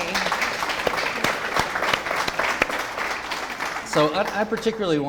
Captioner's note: audience applause